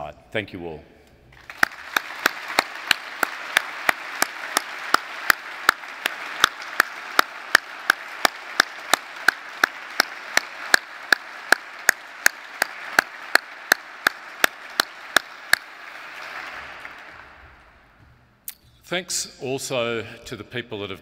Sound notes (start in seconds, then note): 2.1 applauds; 3.3 audience applauds